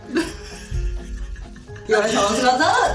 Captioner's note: laughing